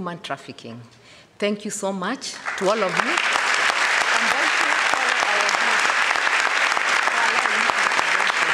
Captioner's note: applause